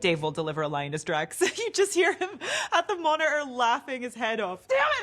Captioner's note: laughs